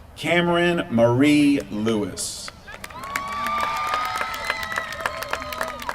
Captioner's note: applause